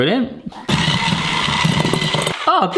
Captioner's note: mixer whirring